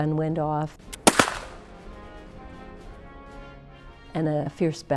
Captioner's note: loud CRACK!